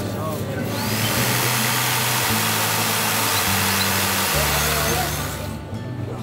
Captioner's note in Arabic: صوت منشار كهربائي